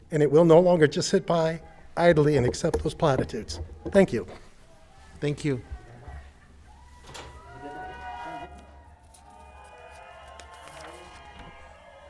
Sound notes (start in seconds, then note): 6.5 distant protesters noise